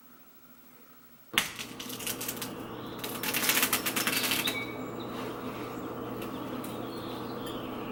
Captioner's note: eggshells crackling... birds chirping... how quaint